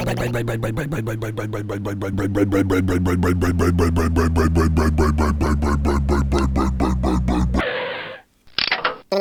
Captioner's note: motor slowdown; skid; click